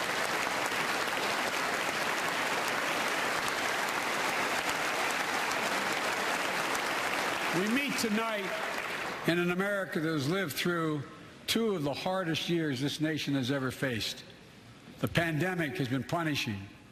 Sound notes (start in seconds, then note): 0.0 applause